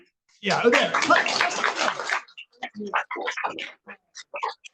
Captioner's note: audience applauds